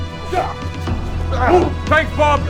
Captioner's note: ahh!